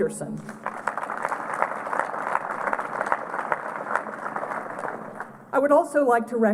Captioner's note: applause